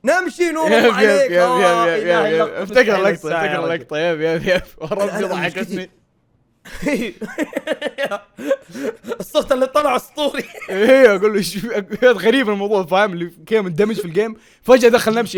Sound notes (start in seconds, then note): 6.6 laughs